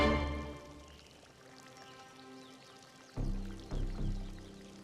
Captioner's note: none